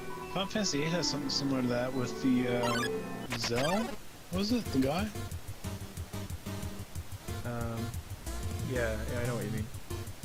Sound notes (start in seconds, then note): none